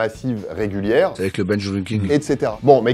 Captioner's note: recording plays